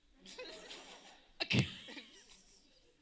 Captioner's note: laughter